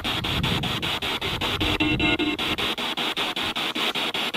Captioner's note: radio noise from the spirit box